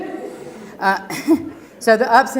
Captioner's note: laugh